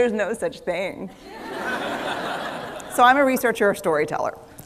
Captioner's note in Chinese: 笑聲